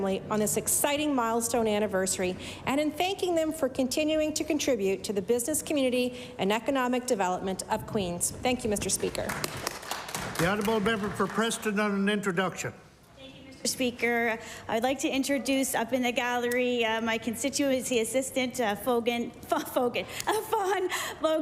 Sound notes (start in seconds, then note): 12.1 applause